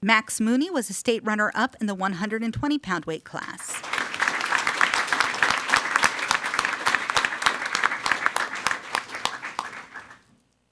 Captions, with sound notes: Max Mooney was a state runner up in the 120 pound weight class. (everyone applauding)